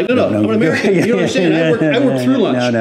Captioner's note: laughs